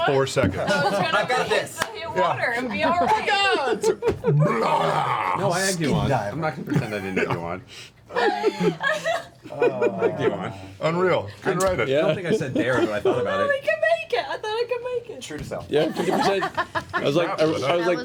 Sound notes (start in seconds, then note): 4.4 vomit sound